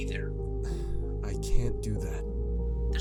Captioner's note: sigh